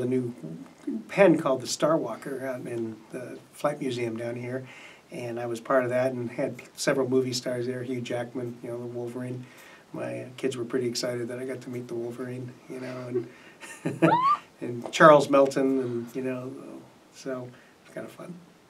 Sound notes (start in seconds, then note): 13.6 laugh